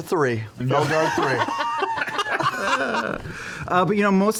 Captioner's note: laughter